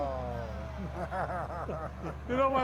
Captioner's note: hosts laughing